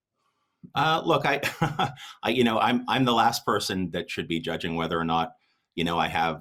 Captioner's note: laughing